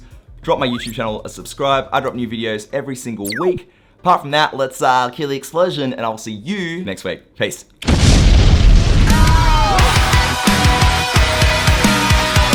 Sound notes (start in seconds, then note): 7.8 fire explodes; 9.0 heavy rock music